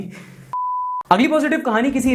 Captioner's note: beep